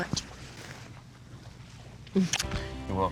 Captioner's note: smooch